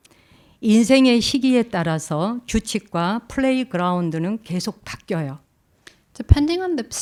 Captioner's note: speaking in Korean